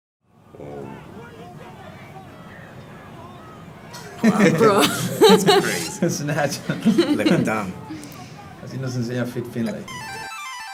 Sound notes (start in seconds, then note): 4.2 laugh